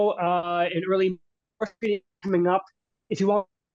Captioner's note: radio interference drowns out speaker